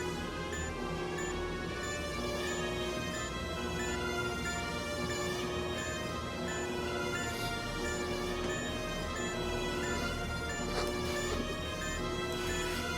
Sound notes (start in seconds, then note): 0.1 beeping; 6.2 alarm blaring; 6.2 beeping